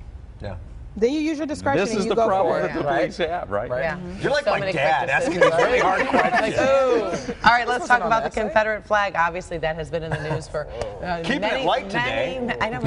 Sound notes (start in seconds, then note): 10.0 laughter